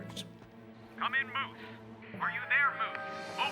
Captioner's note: on Radio